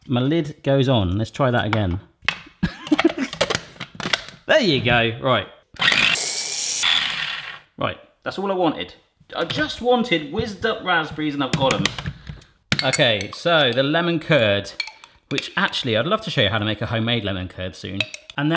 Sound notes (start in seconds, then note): 2.7 laughs; 5.8 food processor whirring